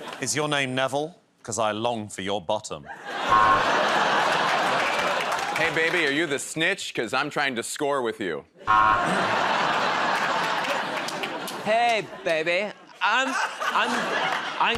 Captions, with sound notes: -Is your name Neville? 'Cause I long for your bottom. [ Laughter ] -Hey, baby, are you the snitch? Because I'm trying to score with you. [ Laughter ] -Hey, baby,